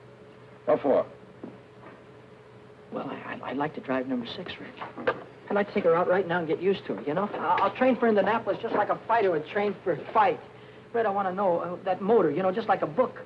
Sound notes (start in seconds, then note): none